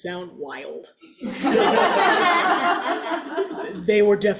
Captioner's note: audience laughs